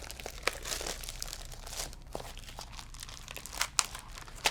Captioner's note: paper rustling